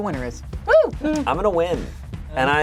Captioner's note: cheers